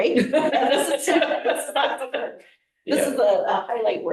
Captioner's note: board members laughing